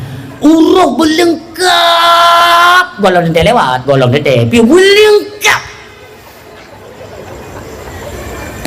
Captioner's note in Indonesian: berteriak